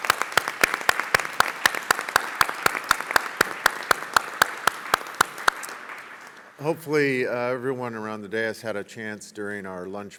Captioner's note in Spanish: Aplausos